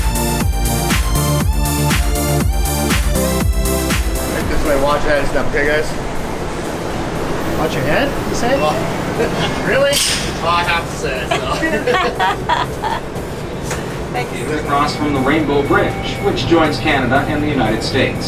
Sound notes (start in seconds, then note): 0.0 lively music; 10.3 laughing